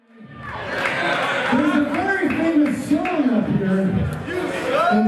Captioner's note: audience shouting